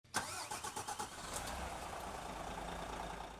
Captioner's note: engine revving